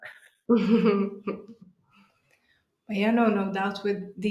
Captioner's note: laughs